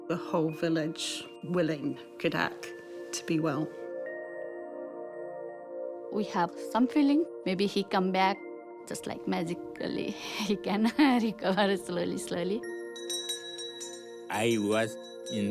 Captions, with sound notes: the whole village willing Khadag to be well. (BELL RINGS)